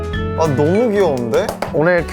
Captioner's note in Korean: 박수